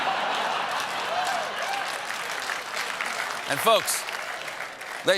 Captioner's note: laughter; applause